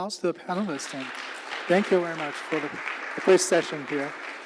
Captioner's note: applause